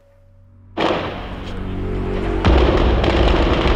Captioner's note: gunfire